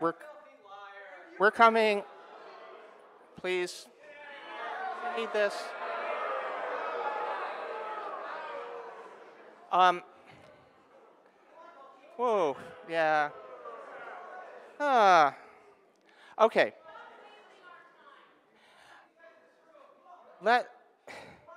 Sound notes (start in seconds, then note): 2.4 audience booing; 11.2 audience member shouting; 16.8 audience members arguing loudly